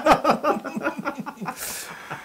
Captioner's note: laugh